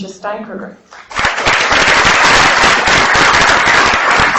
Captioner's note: applause